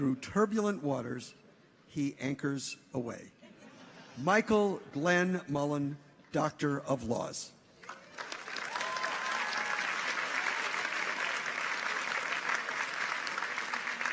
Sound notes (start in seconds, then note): 7.8 audience applauds; 7.8 people cheer